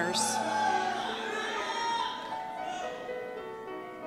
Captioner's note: cheers